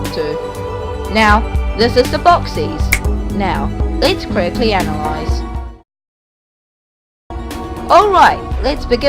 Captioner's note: thanos finger click